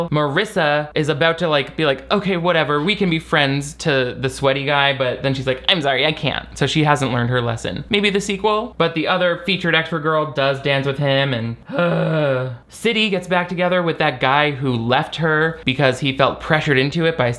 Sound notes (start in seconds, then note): 11.6 groans